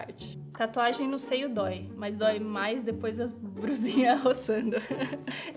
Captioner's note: laughs